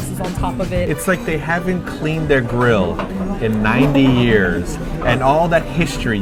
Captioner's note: laughs